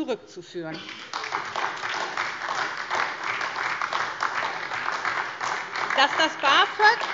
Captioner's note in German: Beifall SPD und DIE LINKE